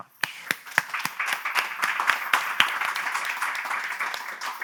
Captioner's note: clapping